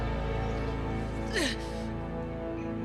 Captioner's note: Aeryn groans